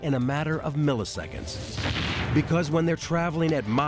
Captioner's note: explosion sound